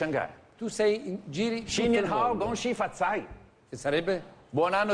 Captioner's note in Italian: parla in Cinese